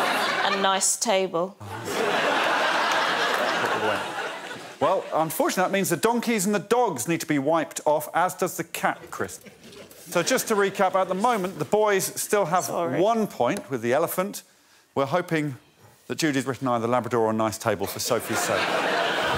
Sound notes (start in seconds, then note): 3.6 laughter